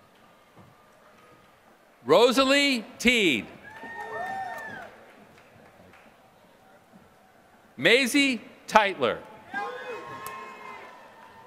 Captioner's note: applause